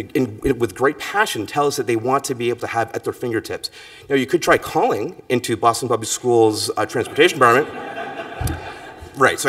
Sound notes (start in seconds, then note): 7.0 laughter